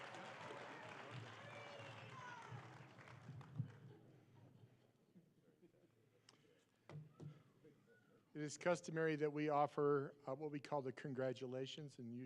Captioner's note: applause